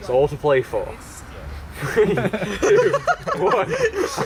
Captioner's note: laughter